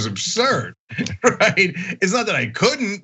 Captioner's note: laugh